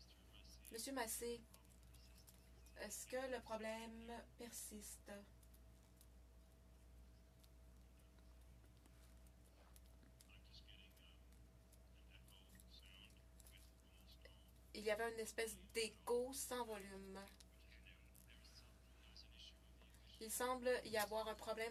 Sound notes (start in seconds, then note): 4.7 speaking French